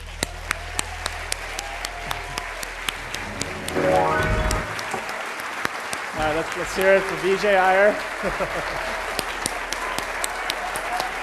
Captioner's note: applause